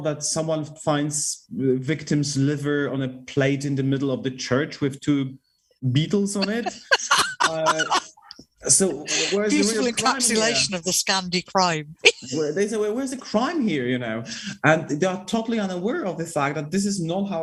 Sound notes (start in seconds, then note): 6.4 laughter